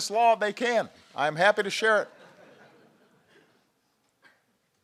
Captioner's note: laughter